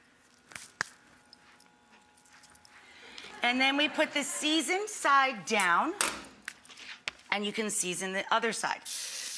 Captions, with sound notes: (audience laughs) And then we put the seasoned side down, and you can season the other side.